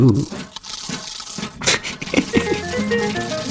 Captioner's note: laughs to myself